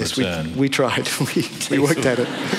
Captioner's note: laughter